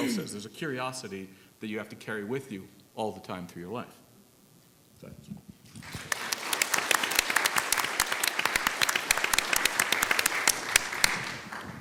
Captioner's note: applause